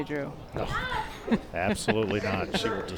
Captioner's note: chuckles